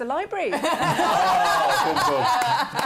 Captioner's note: laughter